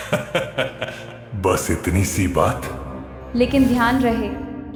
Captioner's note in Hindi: हंसी